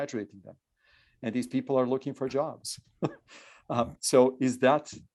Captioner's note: chuckles